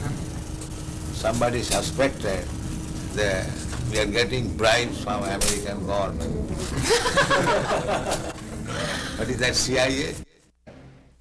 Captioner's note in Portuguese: risadas